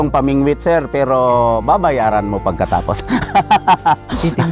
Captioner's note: laughs